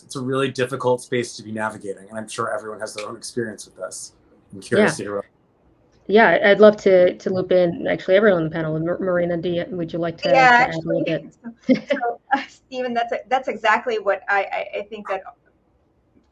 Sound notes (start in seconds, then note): 10.2 laughs